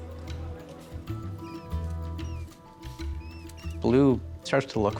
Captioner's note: rat squeaking